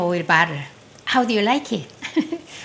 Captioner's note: laughs